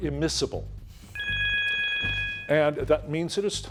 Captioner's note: timer buzzing